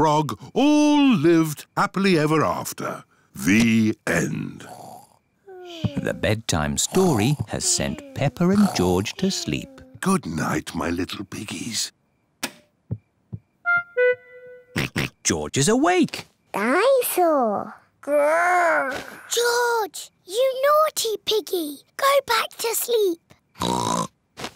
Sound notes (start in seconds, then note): 4.6 both snore; 12.3 light switch clicks; 14.8 oinks; 23.6 oinks